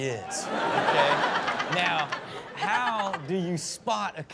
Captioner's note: audience laughs